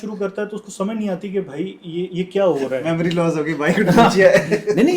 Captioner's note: laughter